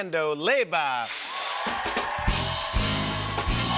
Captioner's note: cheers and applause